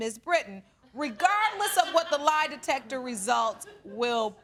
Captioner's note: scattered laughter